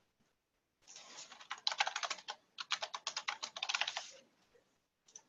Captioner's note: keyboard keys clacking